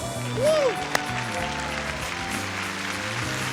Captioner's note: cheering